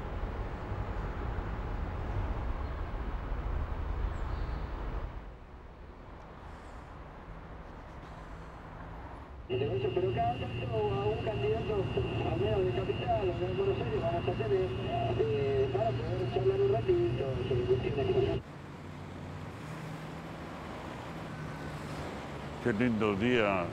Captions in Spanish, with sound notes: [sonidos de la calle] [sonido radio del taxi] ¡Que lindo día!